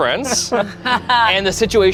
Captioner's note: group laughs